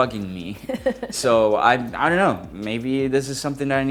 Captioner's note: laughs